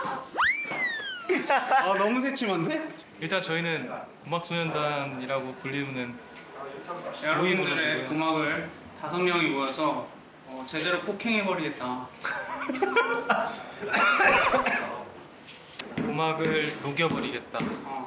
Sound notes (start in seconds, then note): 13.9 giggling; 13.9 cough